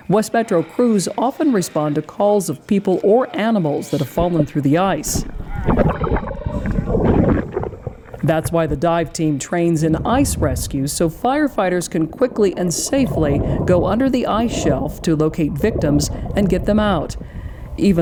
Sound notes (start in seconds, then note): 6.0 water bubbles